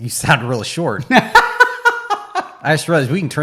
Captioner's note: laughing